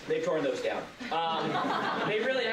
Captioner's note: laughter